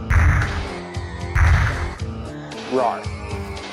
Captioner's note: stomping